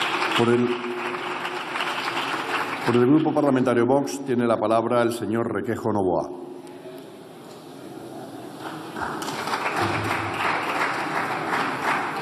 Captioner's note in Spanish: Aplausos